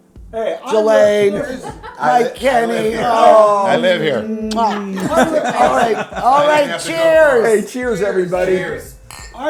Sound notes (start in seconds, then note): 4.4 smacks loudly